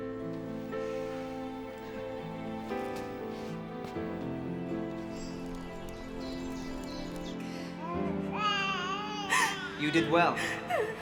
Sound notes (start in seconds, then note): 0.2 soft music; 6.4 baby cries